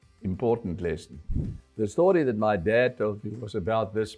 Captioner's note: air whooshing